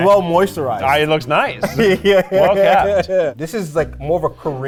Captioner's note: laughs